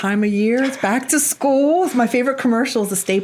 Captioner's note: laughs